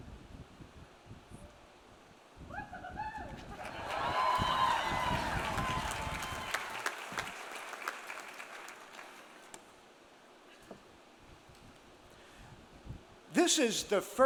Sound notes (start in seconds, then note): 2.5 cheers; 3.1 audience laughs; 6.0 audience applauds